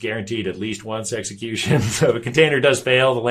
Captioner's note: chuckles